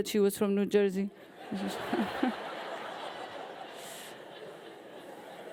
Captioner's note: audience laughing